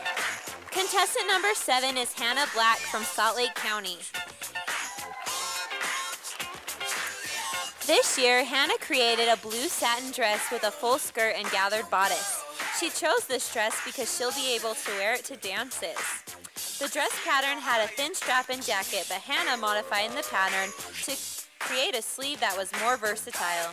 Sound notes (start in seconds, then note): 4.6 sound of cheers from audience